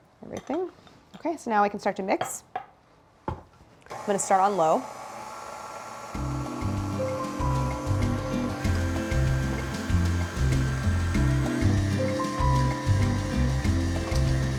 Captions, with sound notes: Everything. Okay. So now I can start to mix. I'm gonna start on low. (mixer whirring) (funky music)